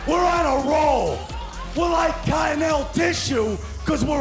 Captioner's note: crowd cheering